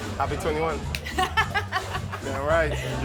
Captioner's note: laughs